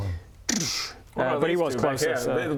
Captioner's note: hard to spell lightning noise